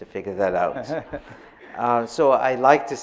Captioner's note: audience laughing softly